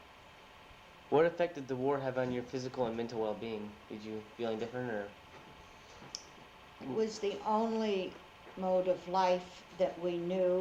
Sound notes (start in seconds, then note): none